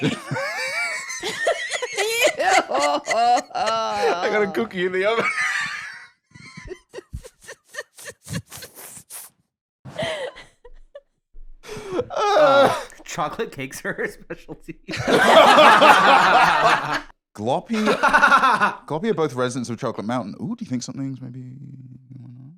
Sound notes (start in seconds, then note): 0.5 wheezing; 6.4 wheezes; 6.5 cackling; 14.8 all laughing